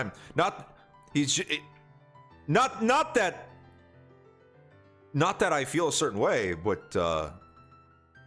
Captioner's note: stutters